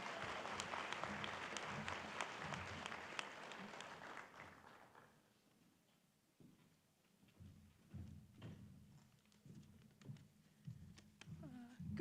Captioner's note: applause